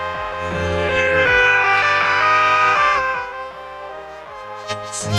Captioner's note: growling